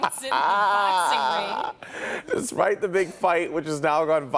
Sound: laughter

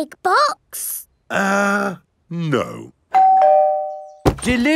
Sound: doorbell rings

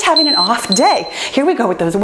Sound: timer beeping

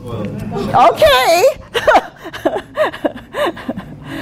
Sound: laughing

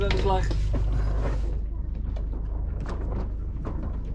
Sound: boat rattling

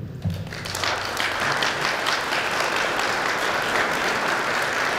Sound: audience applauding

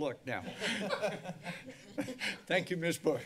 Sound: laugh

